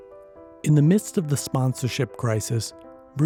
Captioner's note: voiceover